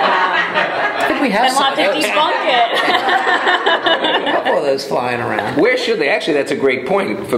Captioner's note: laughter from audience